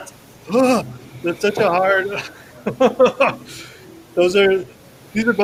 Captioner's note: makes blah sound